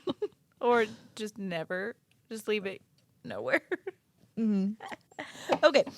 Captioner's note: laughing